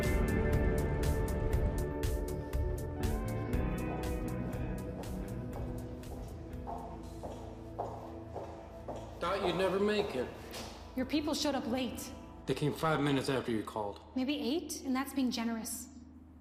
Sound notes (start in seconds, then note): 0.1 dramatic music continues; 5.7 footsteps approaching